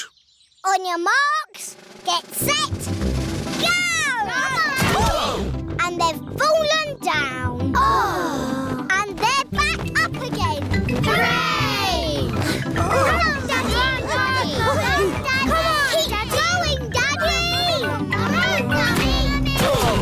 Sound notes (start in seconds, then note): 5.1 all groan